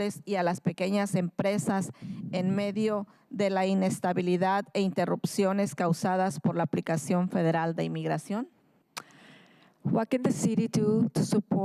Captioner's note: speaking in spanish